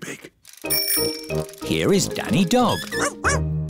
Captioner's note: bell ringing